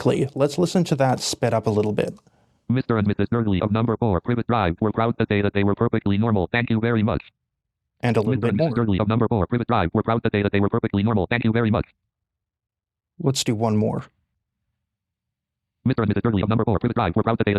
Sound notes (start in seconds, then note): 1.9 speech Synthesizer 1.5x speed; 9.4 speech Synthesizer 2x speed; 15.6 speech Synthesizer 3x speed